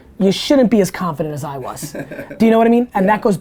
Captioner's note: laughs